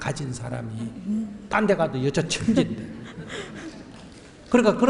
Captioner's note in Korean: 질문자 웃음